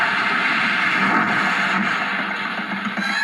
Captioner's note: thud